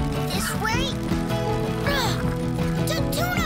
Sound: groaning

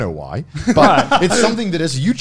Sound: laughs

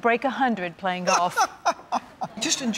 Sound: Pat laughing

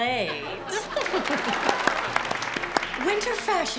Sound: laughter

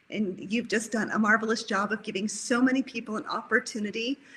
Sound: none

